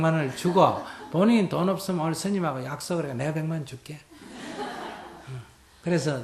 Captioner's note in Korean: 청중 웃음